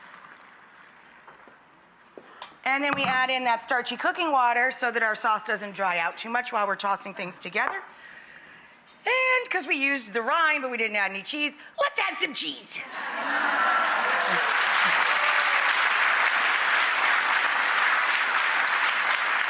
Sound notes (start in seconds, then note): 12.9 laughter and applause